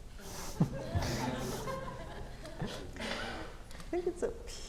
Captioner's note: audience laughing